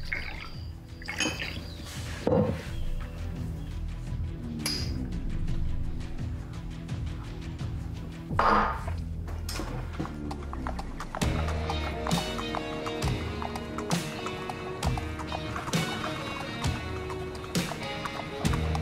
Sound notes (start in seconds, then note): 0.0 liquor splashes; 4.7 glasses clink; 8.2 glasses clank; 8.9 horse hooves clopping; 10.3 somber Western music